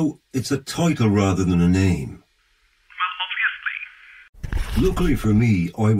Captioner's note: on phone; on phone